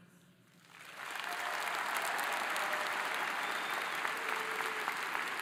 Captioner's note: audience applauding